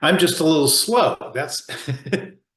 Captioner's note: laughs